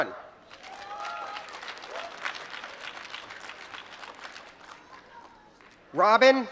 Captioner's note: applause